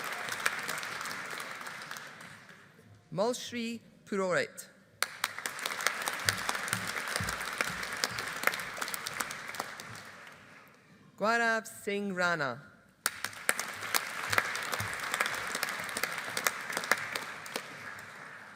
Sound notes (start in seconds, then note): 5.0 audience applauding; 13.0 audience applauding